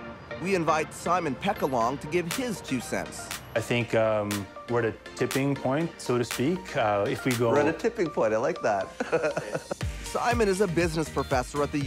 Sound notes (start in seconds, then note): 8.9 laughs